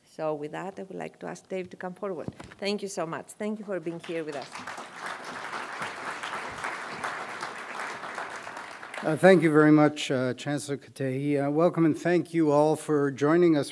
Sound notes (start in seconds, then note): 3.9 applause